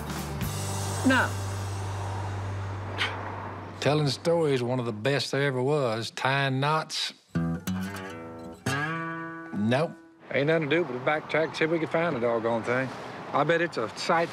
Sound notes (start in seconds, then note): 1.8 scoffs; 7.3 guitar playing